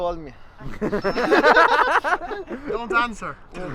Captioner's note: they all laugh